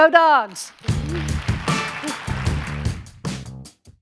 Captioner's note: audience applauding; upbeat music